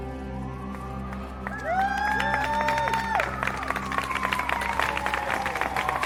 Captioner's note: crowd cheering